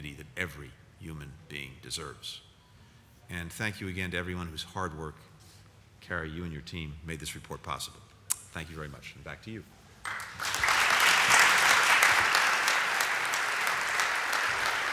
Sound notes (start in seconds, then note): 11.8 applause